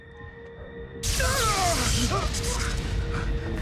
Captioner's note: electric zapping